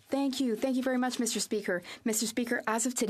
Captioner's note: speaking French